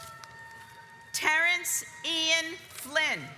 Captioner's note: audience applauds